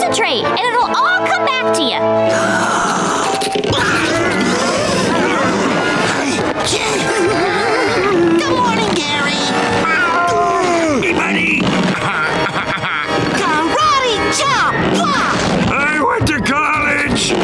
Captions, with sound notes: and it'll all come back to ya! [grunting] Good morning, Gary! Meow. Duh! Me money! [laughing] Karate chop. Ha! I went to college!